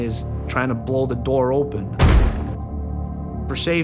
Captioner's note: banging